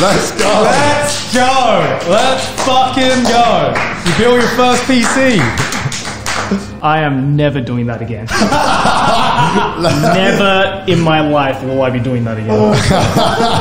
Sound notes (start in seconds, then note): 8.3 group laughs